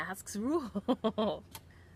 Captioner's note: laughs